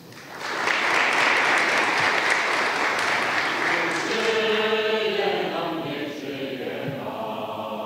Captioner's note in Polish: oklaski